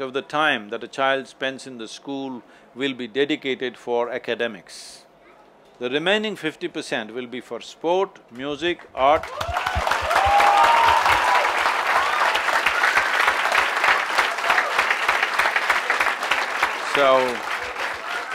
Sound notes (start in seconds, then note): 13.3 cheers/Applause